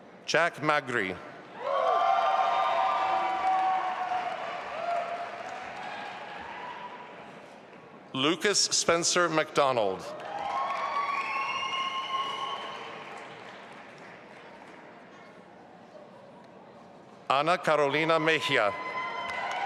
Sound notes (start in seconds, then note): 1.6 audience applauding and cheering; 10.1 audience applauding; 19.1 audience applauding